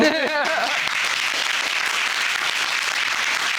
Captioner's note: applauding